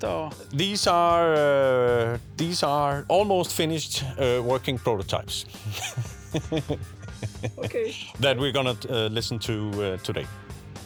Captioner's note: chuckle